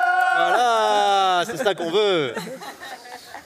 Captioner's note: shouts